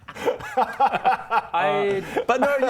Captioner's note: ballsy laughter